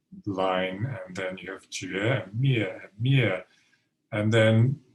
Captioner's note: speaking Mandarin